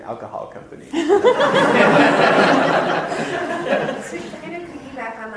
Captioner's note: audience laughter